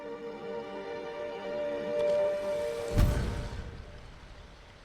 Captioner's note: thunder rumbling